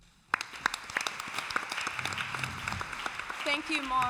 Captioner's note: applause